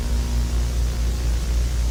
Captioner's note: none